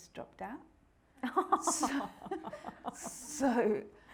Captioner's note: all laughing